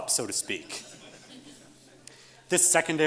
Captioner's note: audience laughs